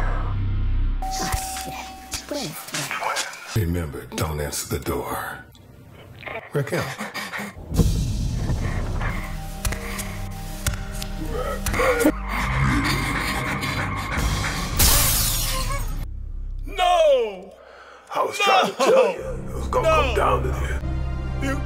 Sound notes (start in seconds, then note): 0.0 breathing; 1.0 doorbell rings; 9.6 footsteps